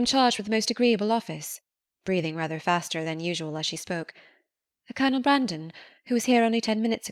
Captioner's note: breathing rather faster than usual as she spoke